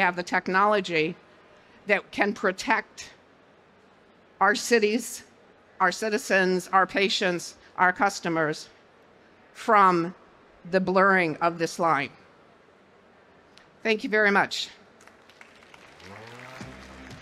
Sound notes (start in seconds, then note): 15.0 applause, music playing